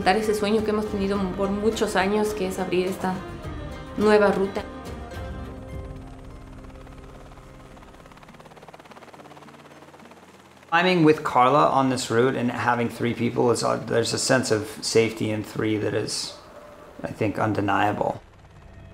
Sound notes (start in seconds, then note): 6.0 helicopter blades whirring